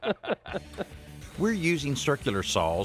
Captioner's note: both laughing